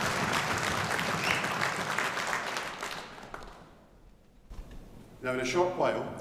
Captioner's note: audience member whistles